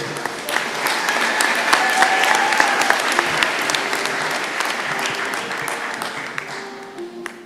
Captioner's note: applause